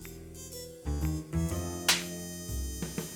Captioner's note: smacking noise